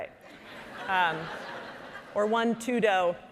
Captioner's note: audience laughing